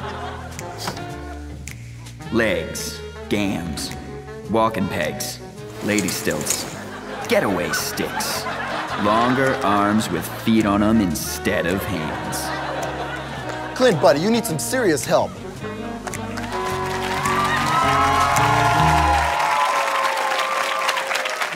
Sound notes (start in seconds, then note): 0.0 audience laughter; 0.2 jazz music; 16.3 audience cheering